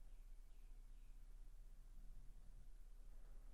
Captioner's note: bird chirping